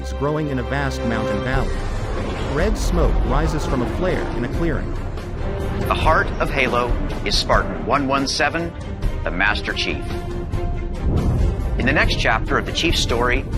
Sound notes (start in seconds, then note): 1.1 engine roars